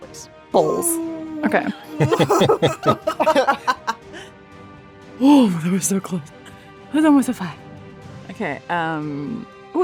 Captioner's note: EVERYONE laughs